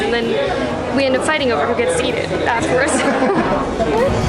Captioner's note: laughs